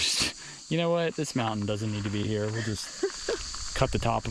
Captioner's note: laughs